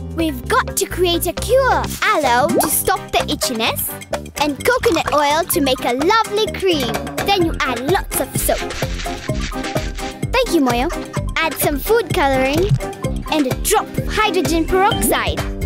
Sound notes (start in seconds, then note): 8.2 grating